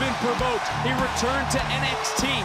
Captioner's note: audience cheering